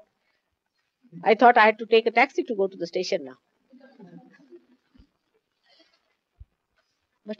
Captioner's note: laughter, She laughs